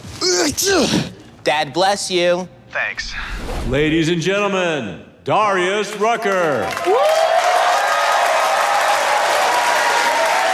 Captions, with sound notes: (Clyde sneezing) - Dad, bless you. - Thanks - Ladies and gentlemen, Darrius Rucker. (audience cheering)